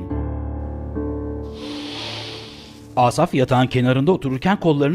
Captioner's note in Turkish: Derin nefes alış sesi